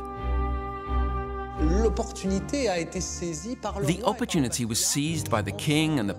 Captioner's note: speaking French